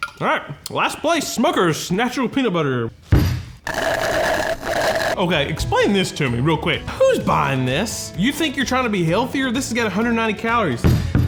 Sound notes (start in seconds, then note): 3.2 jar thudding; 3.6 straw slurping